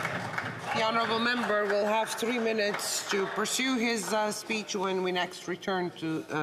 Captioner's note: applause